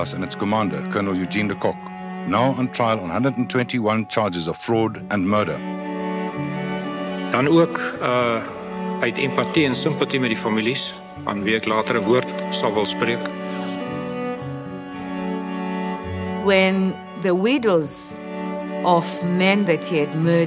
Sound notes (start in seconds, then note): 7.5 speaking in Afrikaans; 13.9 pensive music